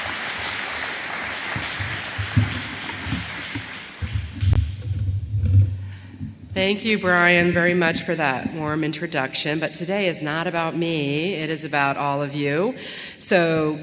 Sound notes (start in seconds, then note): 0.0 applause